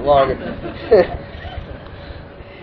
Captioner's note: Gülüyorlar; Gülüyor